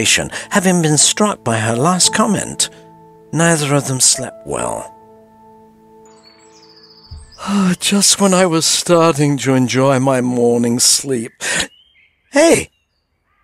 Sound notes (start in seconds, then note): 6.1 birds chirping